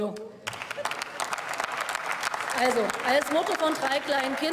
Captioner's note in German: Beifall